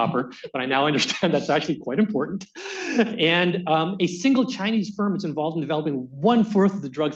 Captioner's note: laughs